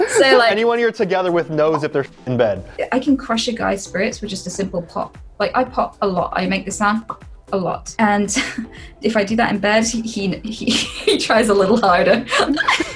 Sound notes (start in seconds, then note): 7.2 pop